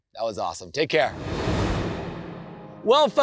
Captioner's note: transition whooshes